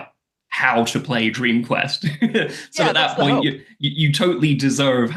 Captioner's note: laughs